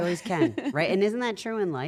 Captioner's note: laugh